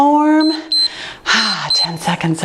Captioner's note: timer beeps